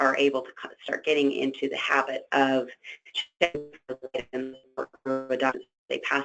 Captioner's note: static